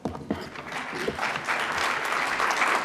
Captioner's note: applause